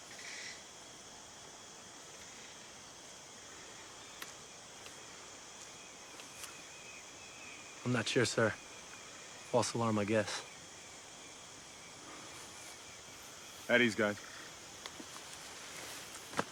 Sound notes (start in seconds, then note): none